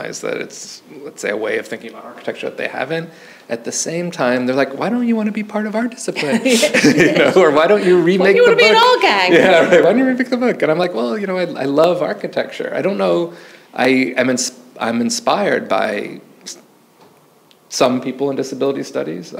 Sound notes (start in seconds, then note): 6.2 laughs; 6.2 laughing; 9.2 chuckles